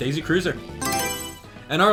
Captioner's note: Mario Selection Sound